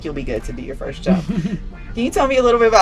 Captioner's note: laughs